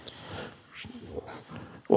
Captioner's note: none